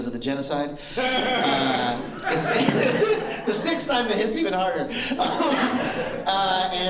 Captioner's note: laughter